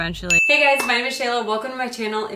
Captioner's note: dinging